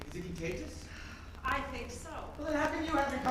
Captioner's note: sigh